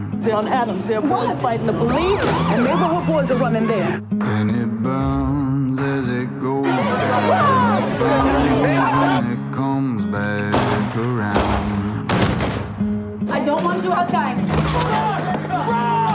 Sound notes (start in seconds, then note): 6.9 shouting; 10.4 gunshots